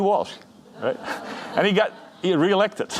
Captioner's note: audience laughing